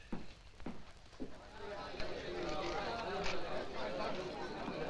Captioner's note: all chattering